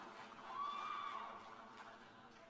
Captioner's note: cheers and applause